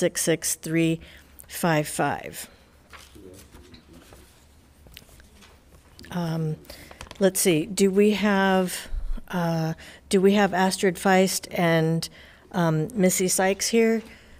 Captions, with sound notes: (paper rustling) Let's see, do we have, do we have Astrid Feist and Missy Sykes here?